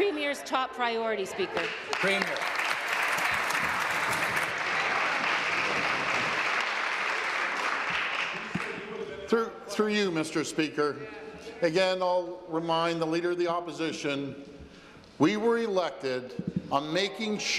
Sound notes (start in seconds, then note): 6.4 applause